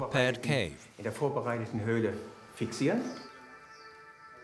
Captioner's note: German spoken audio